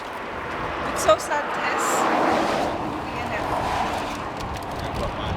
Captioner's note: murmurs